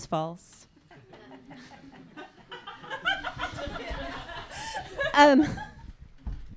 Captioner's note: audience laughter